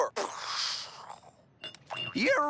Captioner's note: imitates sound of an explosion